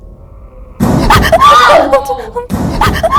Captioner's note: bang!